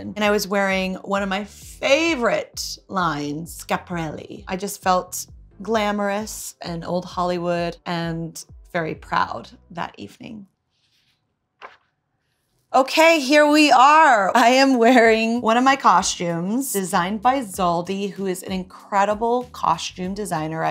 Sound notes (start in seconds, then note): 11.5 book page turns